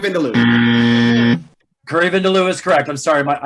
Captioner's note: loud buzzer